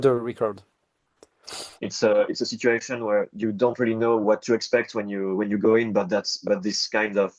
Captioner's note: sniffs